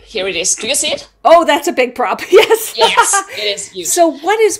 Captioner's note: laughs